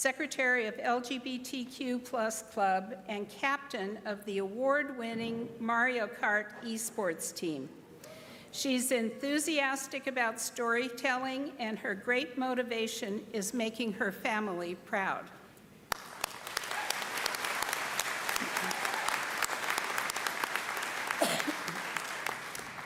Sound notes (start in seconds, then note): 15.8 applause